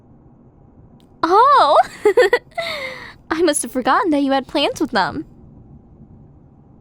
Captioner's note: giggle